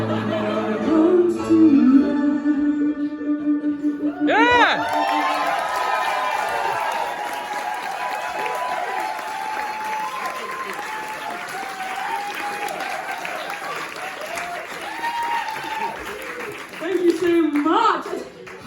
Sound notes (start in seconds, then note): 4.0 audience cheering